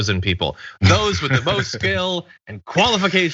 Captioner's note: laugh